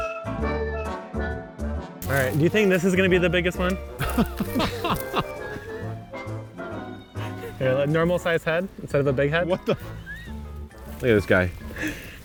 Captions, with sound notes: All right. - Do you think this is gonna be the biggest one? (laughing) Normal size head instead of a big head? What the, Look at this guy.